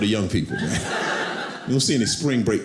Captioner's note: audience laughing